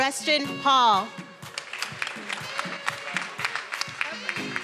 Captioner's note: everyone applauding